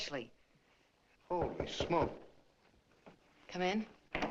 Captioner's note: knock on door